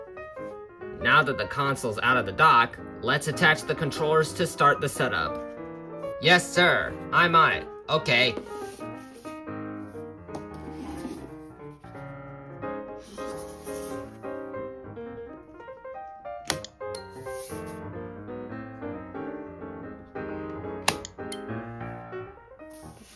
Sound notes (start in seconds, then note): 9.8 piano sounds; 14.2 click